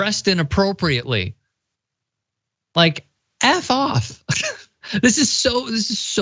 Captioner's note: laugh